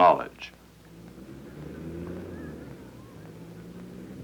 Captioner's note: vehicle engine running